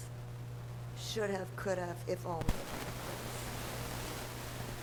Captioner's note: static disturbance